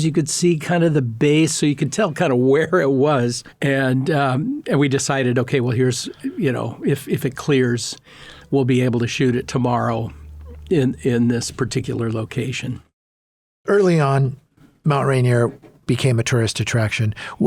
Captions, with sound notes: you could see kind of the base. So you could tell kinda (laughing) where it was. And we decided, "Okay, well, you know, if it clears, we'll be able to shoot it tomorrow in this particular location," - Early on, Mount Rainier became a tourist attraction.